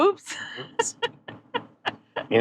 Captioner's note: laughing